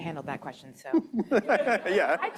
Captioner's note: laughter